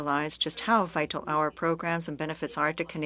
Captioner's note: speaking French